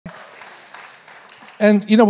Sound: congregation applauding

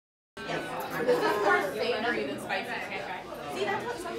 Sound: excited chattering

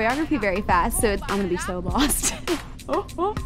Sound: laughs

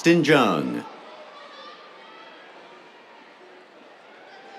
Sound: cheers

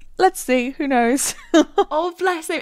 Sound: laughing

